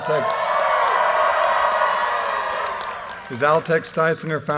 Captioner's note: audience cheers and applause